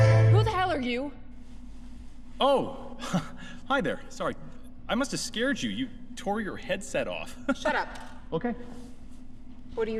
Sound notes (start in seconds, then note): 2.9 chuckle; 6.9 laugh